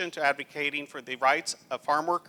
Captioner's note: none